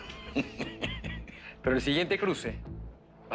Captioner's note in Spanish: Risas